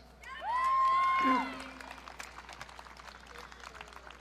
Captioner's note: audience cheering